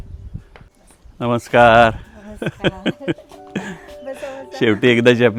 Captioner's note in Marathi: हास्य